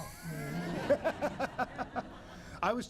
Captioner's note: laughter